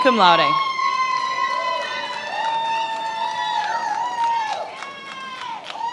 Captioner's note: attendees applauding and cheering